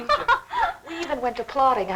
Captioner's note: laughing